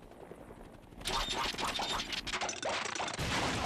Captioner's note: engine sputtering